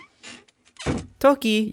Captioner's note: door knocking; stock door opening sound effect